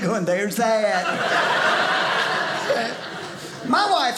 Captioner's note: audience laughing